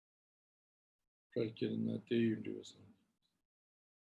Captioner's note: tibetan